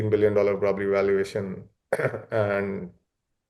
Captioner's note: coughs